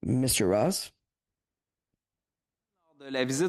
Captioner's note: speaking French